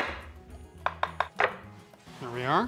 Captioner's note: tapping